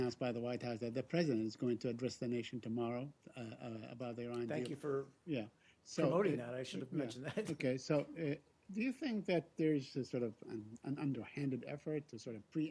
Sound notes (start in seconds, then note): 7.2 laughter